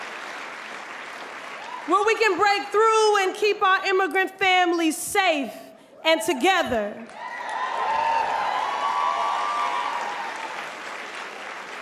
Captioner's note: applause